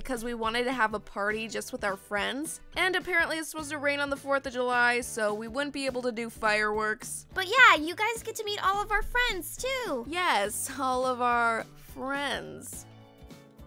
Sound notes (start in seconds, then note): none